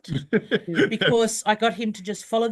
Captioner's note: laughs